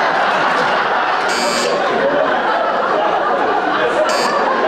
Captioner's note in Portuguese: campainha